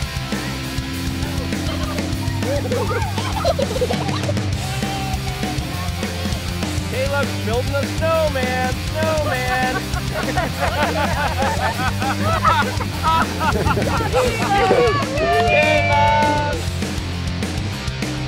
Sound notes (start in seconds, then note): 9.4 laughter; 13.7 rock music